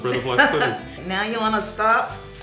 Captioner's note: laughing